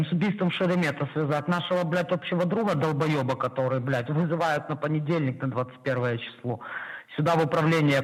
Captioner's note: speaking Russian